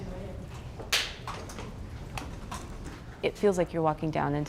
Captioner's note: hands clap